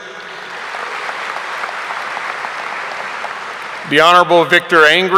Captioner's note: audience applauding